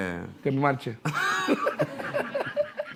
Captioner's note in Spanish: todos ríen